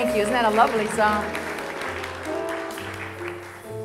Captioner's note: audience applause